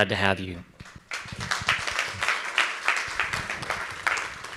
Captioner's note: audience applauds